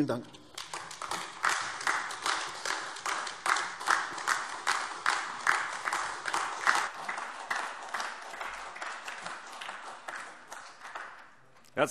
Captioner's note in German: Beifall AfD